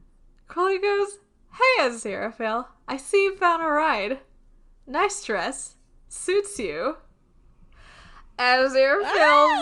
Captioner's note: screams